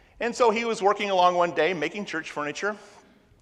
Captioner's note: none